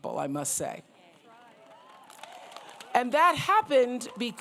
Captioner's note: applause